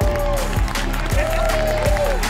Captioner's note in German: Jubel